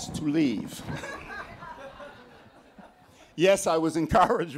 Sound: laughter

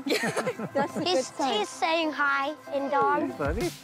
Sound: laughs

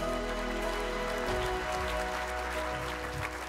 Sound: applause

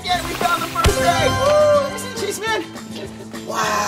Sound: cheering

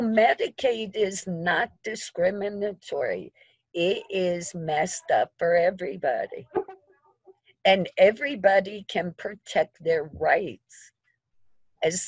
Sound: chuckling

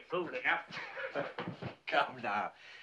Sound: chuckles

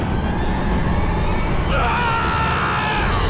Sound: screaming

